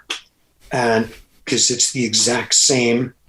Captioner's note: Andrew laughs